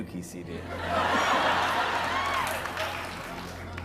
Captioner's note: laughter